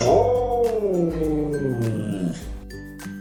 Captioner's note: siberian husky howling